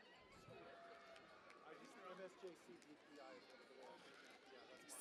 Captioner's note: cheering and Applause